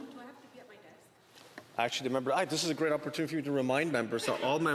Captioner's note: speaking French